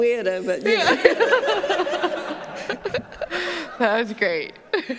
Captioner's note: laughter